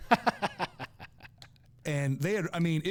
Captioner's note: laughing